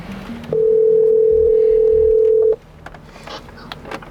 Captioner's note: phone ringing